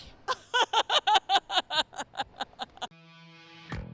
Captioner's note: laughter